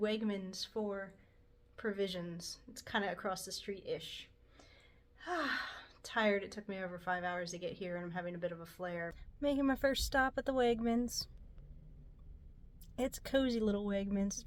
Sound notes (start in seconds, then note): 5.2 sigh